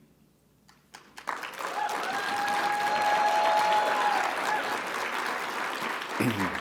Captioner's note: audience applauding; audience cheering